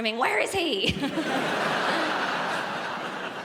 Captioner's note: giggles